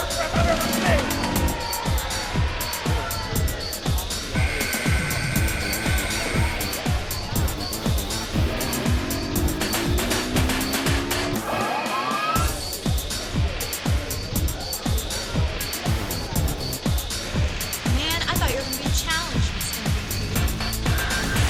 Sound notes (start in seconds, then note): 4.3 buzzer sounding